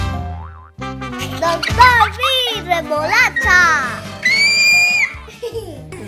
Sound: shouts and children's laughter

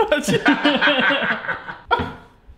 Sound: laugh

